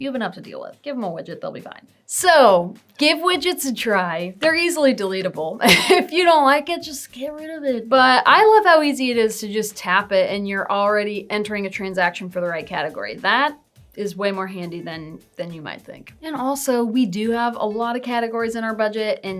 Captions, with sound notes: You have enough to deal with. Give 'em a widget, they'll be fine. So, give widgets a try. They're easily deletable. (laughs) If you don't like it, just get rid of it. But, I love how easy it is to just tap it, and you're already entering a transaction for the right category. That is way more handy than than you might think. And, also, we do have a lot of categories in our budget,